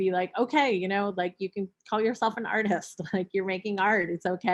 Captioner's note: chuckles